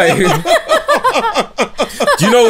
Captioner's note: laughter